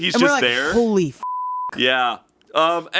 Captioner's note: beeping